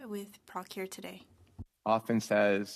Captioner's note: speaking french